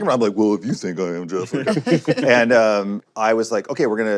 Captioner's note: laughter